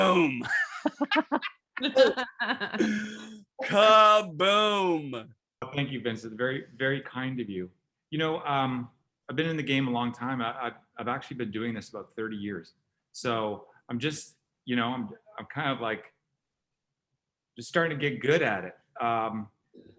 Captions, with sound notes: (group laughing) Kaboom! - Thank you, Vincent, very kind of you. You know, I've been in the game a long time. I've actually been doing this for about 30 years, so I'm just, you know, I'm kind of like just starting to get good at it,